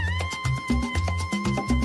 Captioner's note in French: applause